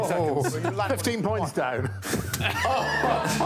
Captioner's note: all exclaim